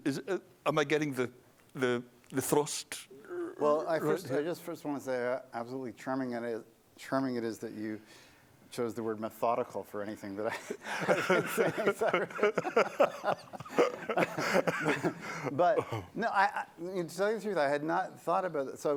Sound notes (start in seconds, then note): 10.4 laughter